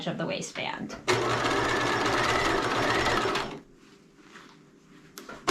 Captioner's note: sewing machine humming